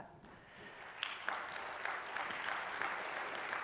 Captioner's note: applause